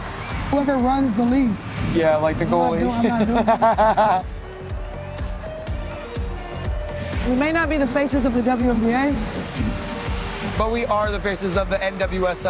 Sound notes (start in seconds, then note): 0.0 crowd cheers; 2.8 laughs; 5.4 light music